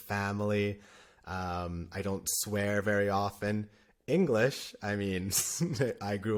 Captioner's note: laughter